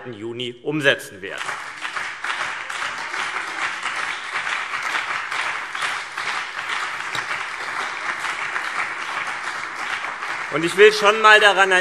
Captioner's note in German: Beifall CDU und BÜNDNIS 90/DIE GRÜNEN